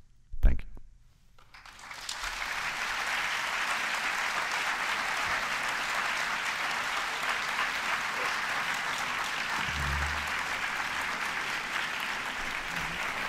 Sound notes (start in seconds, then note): 1.4 applause